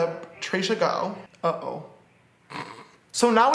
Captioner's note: laughs